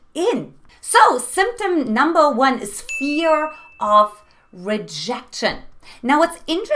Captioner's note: beep